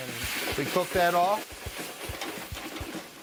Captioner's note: pan scraping